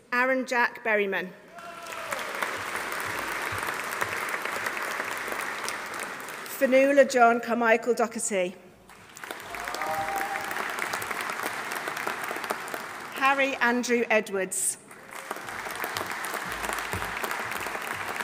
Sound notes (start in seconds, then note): 1.5 audience cheering; 1.6 audience applauding; 8.8 audience applauding; 9.2 audience cheering; 14.8 audience applauding